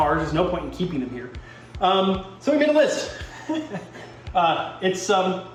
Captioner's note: chuckles